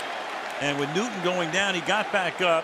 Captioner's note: boos